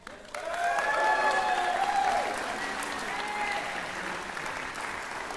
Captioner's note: applause